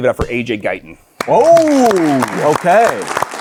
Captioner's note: audience applauding